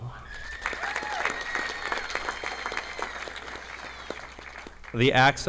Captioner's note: audience applauding